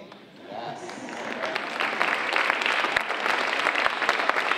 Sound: audience applauding

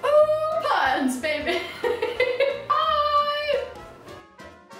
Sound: laughter

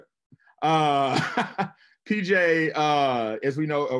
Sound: laughs

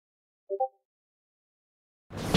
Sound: discord notification

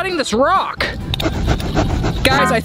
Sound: sawing sound

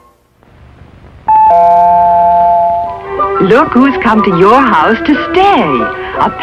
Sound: doorbell rings

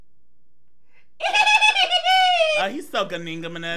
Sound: giggling

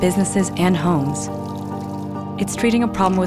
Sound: water splashing

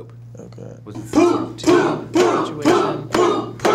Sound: class chanting in unison

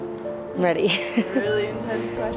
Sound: laughs

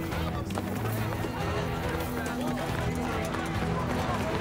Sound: people shouting

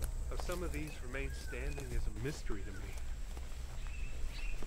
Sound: none

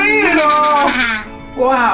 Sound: laughing

